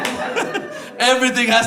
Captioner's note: laughter